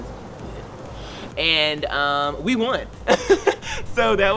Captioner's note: chuckles